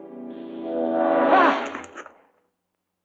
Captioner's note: gasps